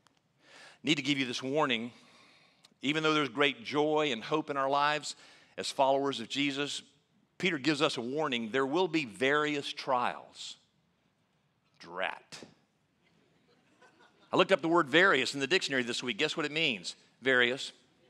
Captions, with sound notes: I need to give you this warning. Even though there's great joy and hope in our lives, as followers of Jesus, Peter gives us a warning, there will be various trials. Drat. (laughing) I looked up the word various in the dictionary this week. Guess what it means? Various.